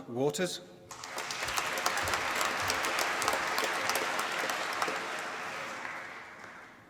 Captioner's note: applause